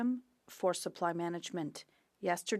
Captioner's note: speaking French